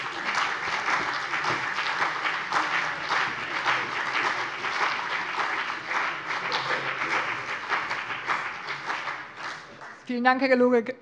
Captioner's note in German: Beifall CDU und BÜNDNIS 90/DIE GRÜNEN